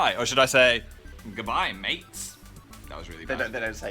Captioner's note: in Australian accent